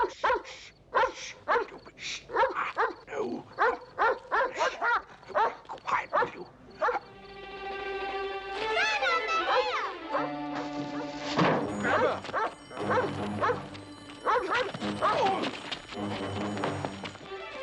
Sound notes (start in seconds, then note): 11.2 slamming; 15.0 grunting